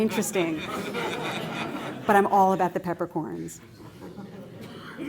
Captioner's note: laughter